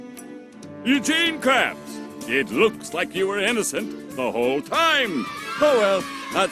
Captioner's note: children cheering